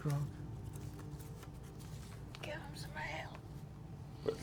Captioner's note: whispering